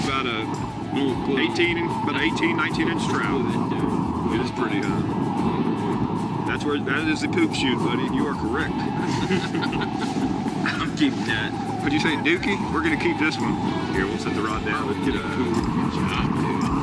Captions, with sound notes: About a 18, 19 inch trout. It is pretty, huh? That is the poop shoot, buddy, you are correct. (men laughing) - I'm keeping that. - What did you say? Dookie? We're gonna keep this one. Here, we'll set the rod down. - Good job, dude.